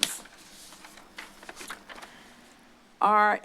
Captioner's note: paper shuffling